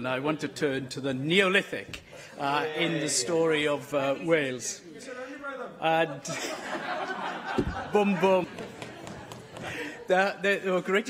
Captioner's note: laughter